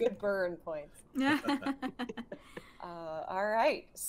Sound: group laughing

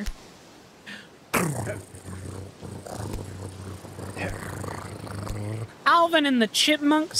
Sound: imitating Drum Roll Noise, Sounds Like A Cat Purring

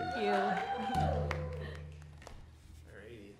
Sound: audience cheering

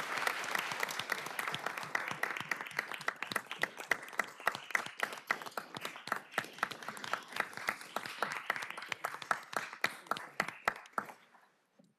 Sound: applause

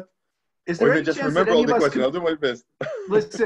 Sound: laughing

